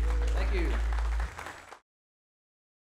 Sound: audience applauding

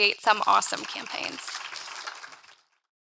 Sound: audience clapping

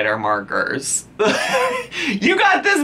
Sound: laughs

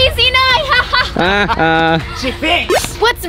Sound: laughs loudly

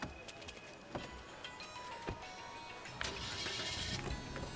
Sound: phone buzzing

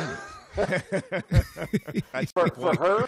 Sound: laughter

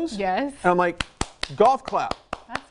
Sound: clapping hands

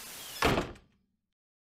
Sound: door shuts

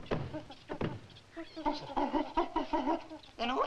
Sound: gorilla chittering frantically

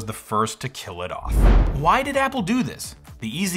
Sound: swoosh

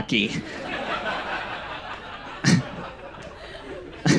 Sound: audience laughs

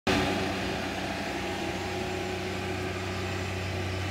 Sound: tractor engine roaring

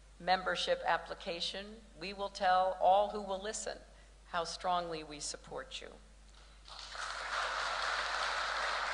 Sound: applause

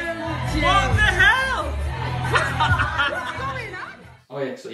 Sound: laughs; laughs

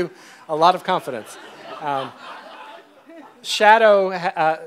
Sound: audience laughs

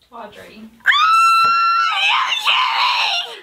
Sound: screaming

